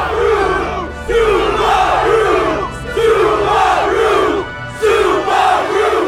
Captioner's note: crowd